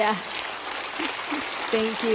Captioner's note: audience applauding